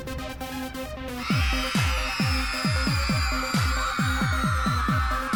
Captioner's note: cheering